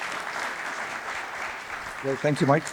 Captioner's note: applause